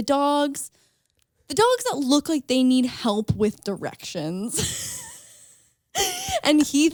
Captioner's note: laughs